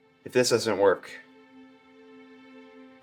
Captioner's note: none